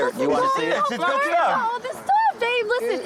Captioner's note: arguing